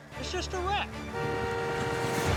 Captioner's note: car horns honking